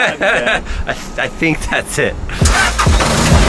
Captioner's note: laughs; engine roars